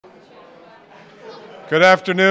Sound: audience chattering

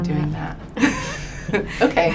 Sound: laughing

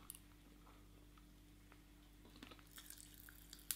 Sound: sucking

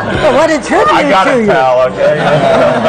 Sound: laughter

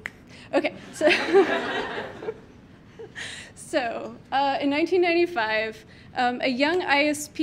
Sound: laughs

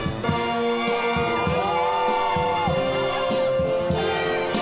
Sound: cheering

